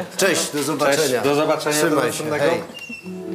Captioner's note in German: Sie verabschieden sich auf Polnisch